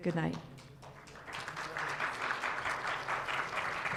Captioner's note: crowd applauds